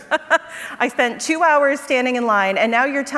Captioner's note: laughs